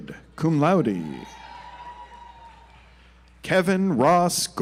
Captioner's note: audience applauds